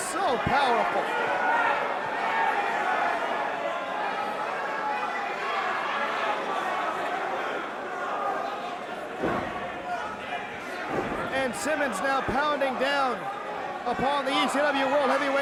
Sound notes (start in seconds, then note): 3.6 crowd cheering